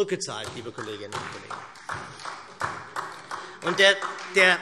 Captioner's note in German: Beifall SPD